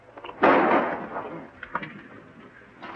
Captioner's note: gun firing